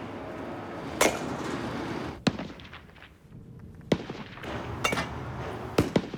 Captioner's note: balls thwack off metal bat